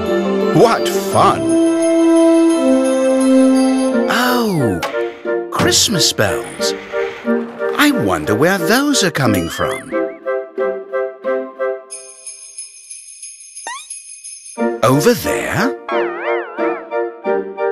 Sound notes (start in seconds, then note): 1.8 bells jingling; 11.9 bells jingling